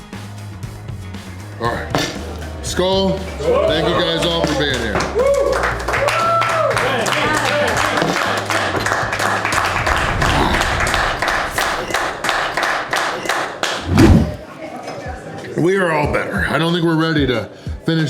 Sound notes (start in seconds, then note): 6.1 crowd clapping and cheering